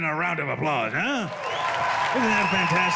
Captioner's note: applause